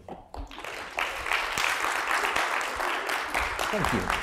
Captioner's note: applause